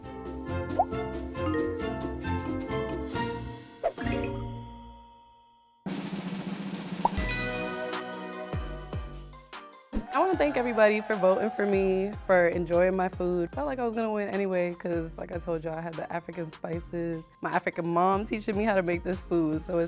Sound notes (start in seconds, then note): 0.2 upbeat music; 5.8 drum roll; 7.2 triumphant chime